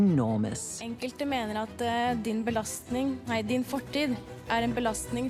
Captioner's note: speaking in foreign language